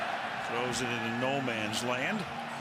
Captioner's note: pa announcement